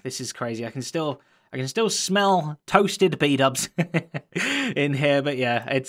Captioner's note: chuckles